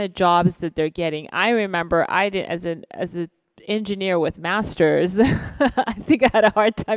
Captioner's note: laughs